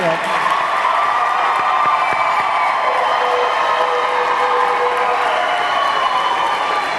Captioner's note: audience clapping; audience cheering